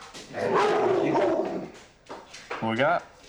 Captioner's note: dog barking